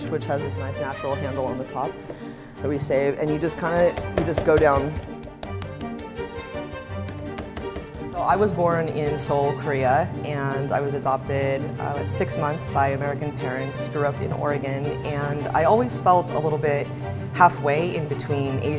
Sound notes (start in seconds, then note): 4.7 radish thumps